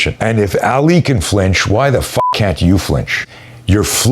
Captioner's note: beep